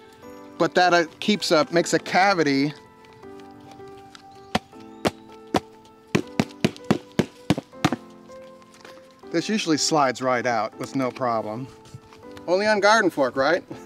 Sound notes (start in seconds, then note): 3.6 pounding on container